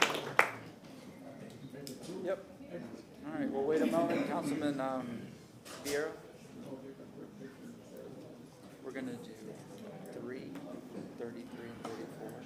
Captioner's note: applause